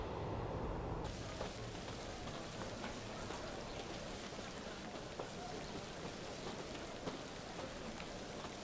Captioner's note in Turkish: Yağmur sesi; Ayak sesleri